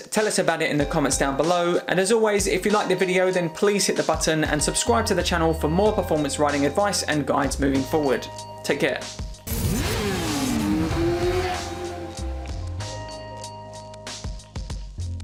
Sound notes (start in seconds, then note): 9.4 motorbike engine roaring; 12.3 soft music